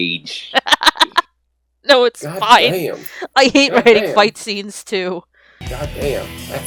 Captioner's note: laughs